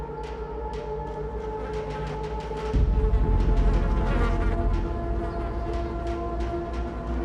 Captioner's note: chilling music; flies buzzing